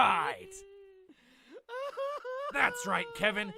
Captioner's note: cries